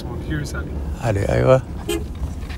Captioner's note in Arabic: السائق يتحدث لغة أجنبية; يتحدث لغة أجنبية; صافرة السيارة